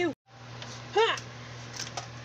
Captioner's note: Tempest Exclaims